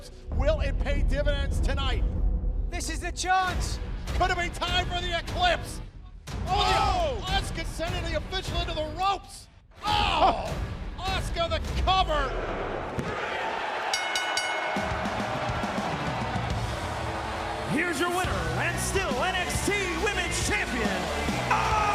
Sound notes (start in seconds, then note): 11.8 crowd cheering; 13.9 bell ringing